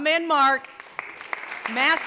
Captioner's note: clapping